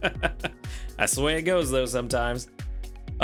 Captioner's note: laughs